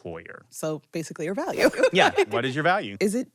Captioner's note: laughs